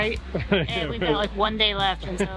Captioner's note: laughs